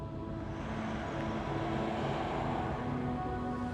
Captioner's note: car engines revving; dramatic music